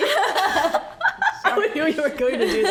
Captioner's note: laughs